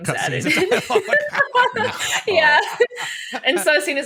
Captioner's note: laughter